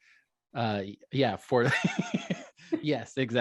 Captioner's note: laughing